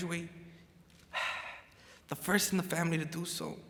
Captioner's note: sighs